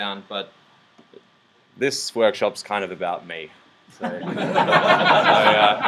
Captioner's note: laughs